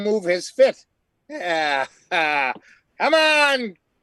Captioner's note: laughing